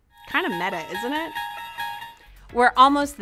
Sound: bell ringing

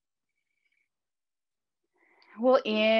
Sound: breathing deeply

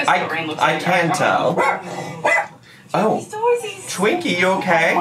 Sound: Twinkie barking

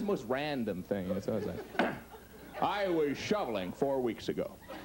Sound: clears throat

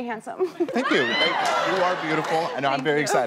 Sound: crowd cheers

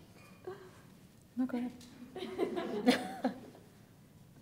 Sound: laughing

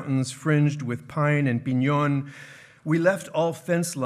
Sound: speaking in foreign language

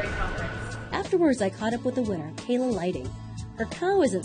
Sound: voiceover

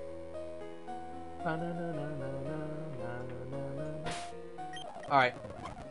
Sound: humming to music

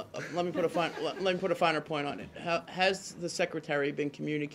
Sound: laughter

